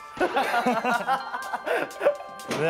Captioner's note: Cracks up